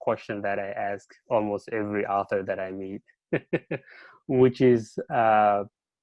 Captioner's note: chuckles